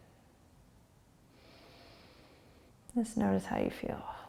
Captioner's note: breathing